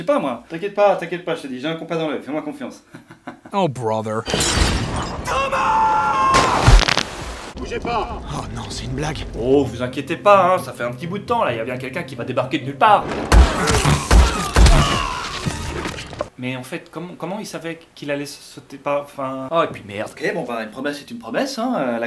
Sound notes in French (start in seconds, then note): 2.8 rires; 6.3 craquements; 13.0 tirs